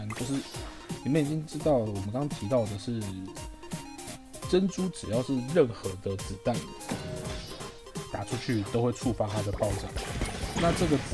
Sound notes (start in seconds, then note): 5.5 bullets